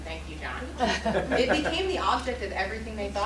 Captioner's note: laughter